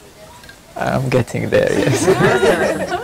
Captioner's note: laughing about beard